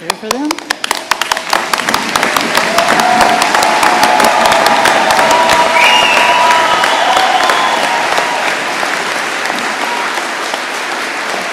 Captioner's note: applause and cheers